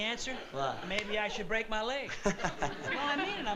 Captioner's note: laughs